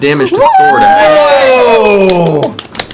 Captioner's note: cheering